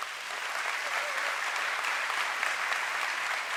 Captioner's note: applause